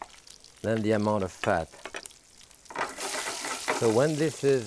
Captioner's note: pan sizzling